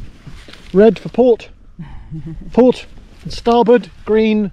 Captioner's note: woman laughs